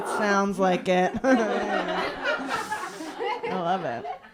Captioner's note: laughter